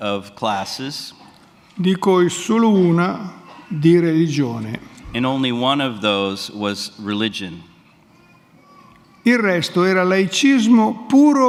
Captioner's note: speaks in Italian